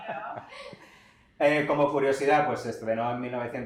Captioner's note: laughs